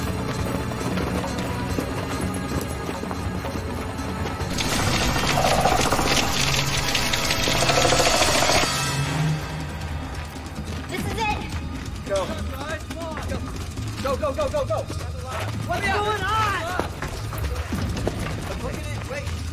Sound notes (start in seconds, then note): 0.0 scary music intensifies; 4.5 centipede growls; 9.4 music fades